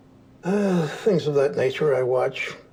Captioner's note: deeply sighs